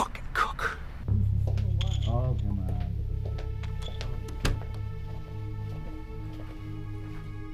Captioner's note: poker game in background